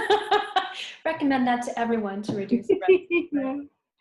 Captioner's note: laughs